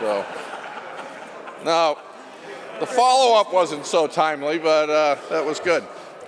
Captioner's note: laughter